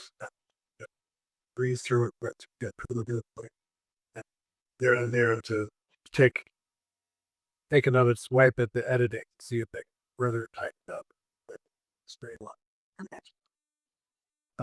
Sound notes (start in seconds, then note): none